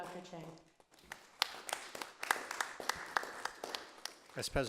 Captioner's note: group applauds